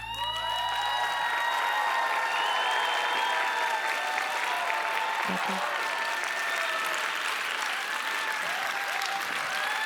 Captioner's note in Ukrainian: оплески